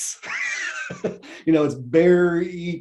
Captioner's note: laughs